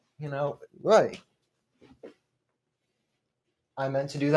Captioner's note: falling off chair noises